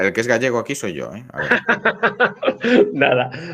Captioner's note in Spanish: Risas